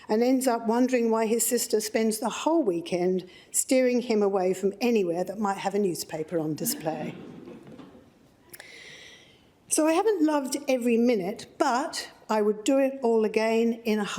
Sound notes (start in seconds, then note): 6.6 laughter